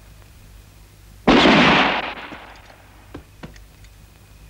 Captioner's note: gun firing